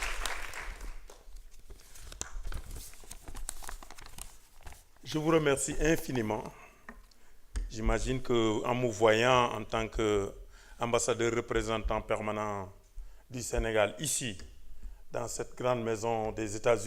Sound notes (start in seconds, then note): 0.0 applause; 11.1 speaking french